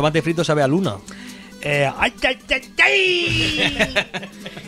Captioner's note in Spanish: Acento Mexicano